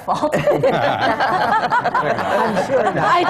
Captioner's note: laughter